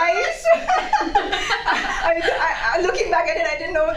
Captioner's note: laughing